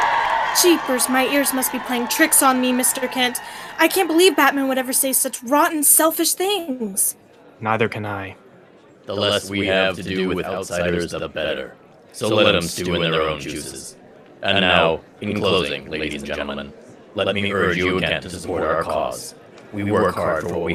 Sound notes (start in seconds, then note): 0.0 crowd cheers and applauds; 8.7 loudspeaker